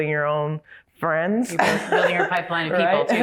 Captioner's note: laughs